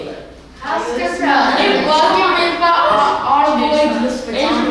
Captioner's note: laughing